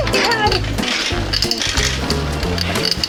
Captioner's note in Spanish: gritos, risas